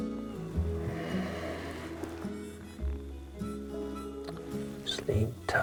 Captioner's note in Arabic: تنهدات